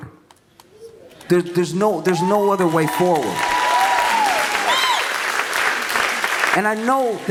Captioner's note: audience claps